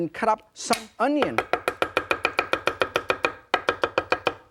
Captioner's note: loud chopping